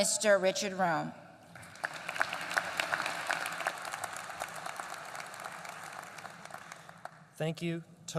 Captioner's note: applause